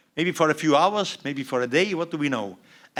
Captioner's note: none